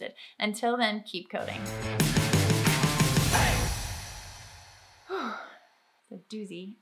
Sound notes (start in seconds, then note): 1.4 upbeat rock music; 5.0 exhaling deeply